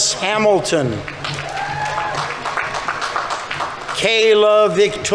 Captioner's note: audience applauding; audience members cheering